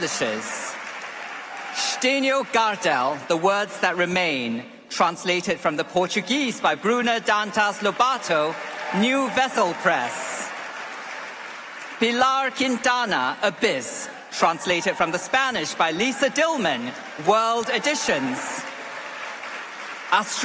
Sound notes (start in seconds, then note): 8.1 applause; 15.7 applause